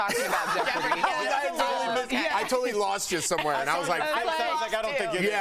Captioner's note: laughter